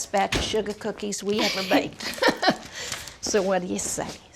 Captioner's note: chuckles